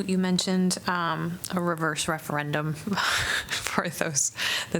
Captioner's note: laughter